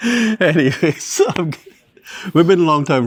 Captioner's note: laughing; laughs